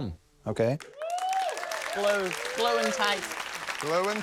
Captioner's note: applause, cheering